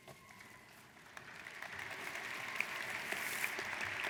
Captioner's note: applauding